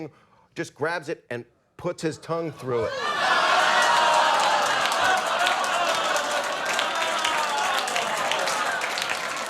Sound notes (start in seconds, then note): 2.8 audience exclaims; 3.1 audience claps